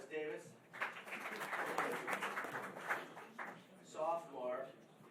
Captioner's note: applause